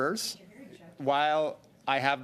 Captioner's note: mixed voices